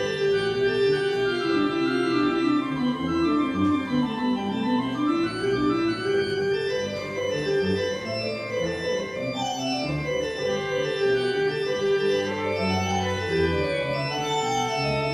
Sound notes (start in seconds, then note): none